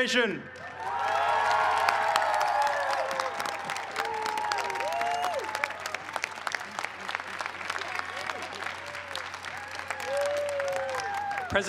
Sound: cheers and applause

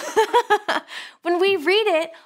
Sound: laughing

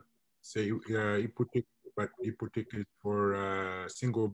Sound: foreign language

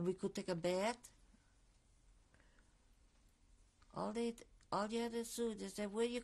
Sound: pauses for 3 seconds

